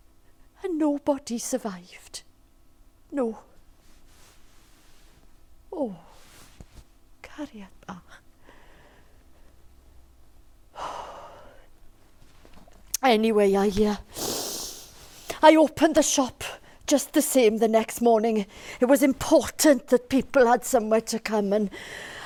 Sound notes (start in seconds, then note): none